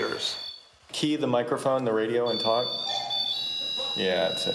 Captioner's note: voiceover